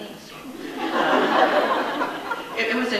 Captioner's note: audience laughs